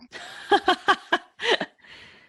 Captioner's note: laughs